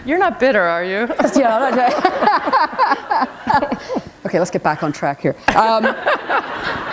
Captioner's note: laughter; laughter